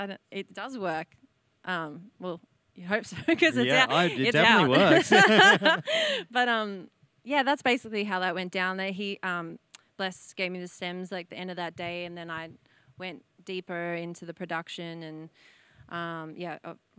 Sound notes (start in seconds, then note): 3.7 laugh